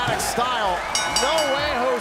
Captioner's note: bell ringing